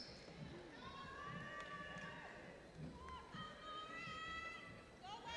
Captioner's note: people shouting and cheering